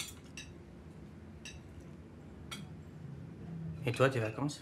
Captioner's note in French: none